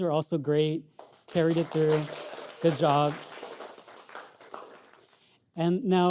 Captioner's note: audience clapping